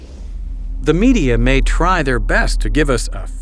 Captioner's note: voiceover